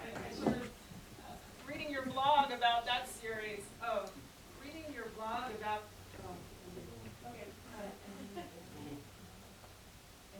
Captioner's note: laughs